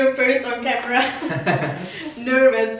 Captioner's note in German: laugh